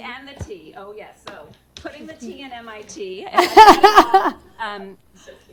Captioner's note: laughter